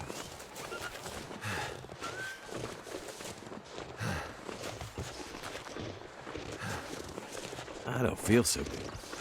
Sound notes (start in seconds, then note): 0.0 footsteps crunching; 0.9 panting